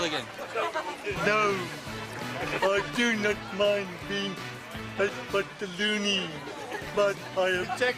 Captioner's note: speaking slowly